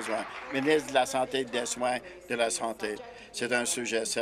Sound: applause

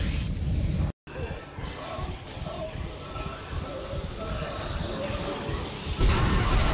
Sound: uneven breathing, pounding heartbeat

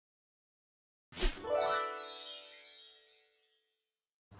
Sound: chimes ringing

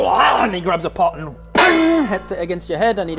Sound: clang!

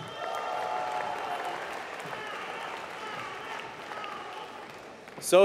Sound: applause

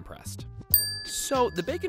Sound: dings

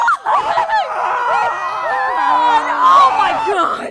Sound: more screaming

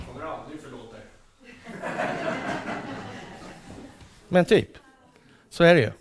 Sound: laughter

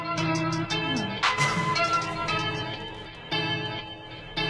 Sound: rap music; snickering

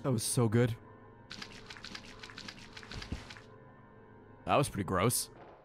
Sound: wet noises

